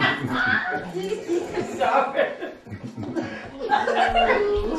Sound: laughing and chatting

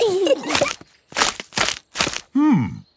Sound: kids giggling; crackling

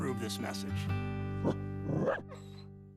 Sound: woof! woof!

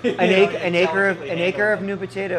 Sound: laughing

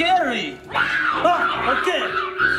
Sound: growling

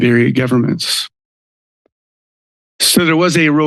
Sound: silence

